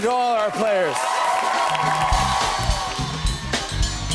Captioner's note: cheers and applause